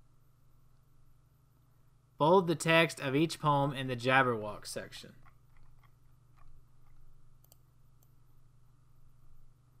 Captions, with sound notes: Bold the text of each poem in The Jabberwock section. [long pause]